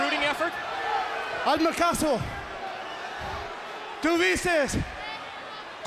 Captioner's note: Eddie speaks foreign language